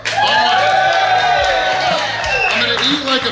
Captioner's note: cheering & Clapping